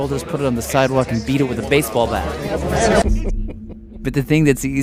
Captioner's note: laughs